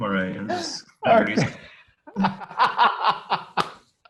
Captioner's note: laughs